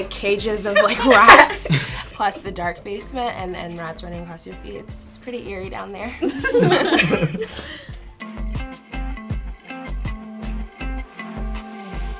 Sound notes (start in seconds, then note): 6.2 all laughing; 8.3 upbeat music